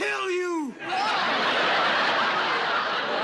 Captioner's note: laughter